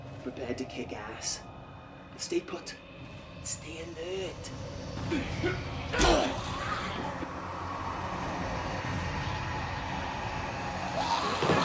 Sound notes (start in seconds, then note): 5.0 grunting; 5.5 groaning